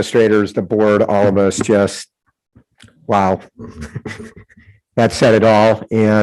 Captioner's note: chuckles